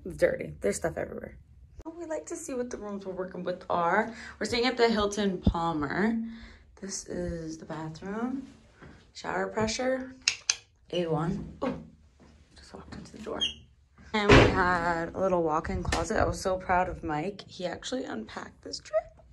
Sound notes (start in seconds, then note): 10.2 clicks tongue